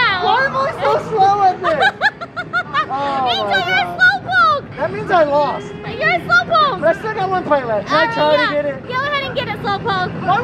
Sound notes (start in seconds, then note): 1.7 laughing